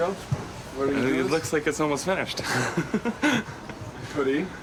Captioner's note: laughs